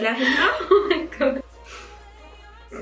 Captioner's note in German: lacht